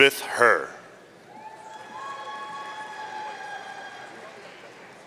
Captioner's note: audience cheering